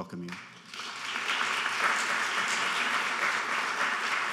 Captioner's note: applauding